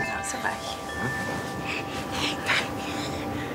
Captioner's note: excited breathing of baby